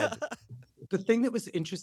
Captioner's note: laughter